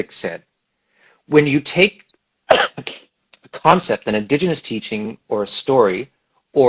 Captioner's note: coughs